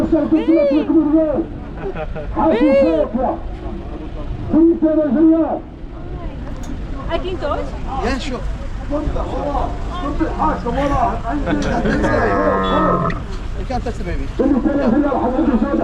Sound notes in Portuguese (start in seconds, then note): 4.5 Homem falando ao microfone no fundo; 11.7 camelo blaterando